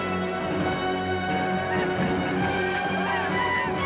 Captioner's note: villains panicking